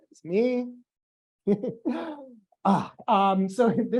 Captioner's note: laughs